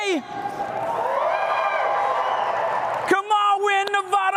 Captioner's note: cheering